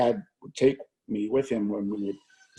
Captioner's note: chuckles